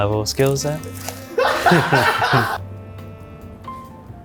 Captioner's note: laughs; jazz music